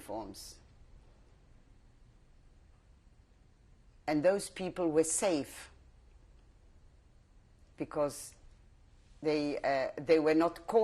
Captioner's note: pauses for 3 seconds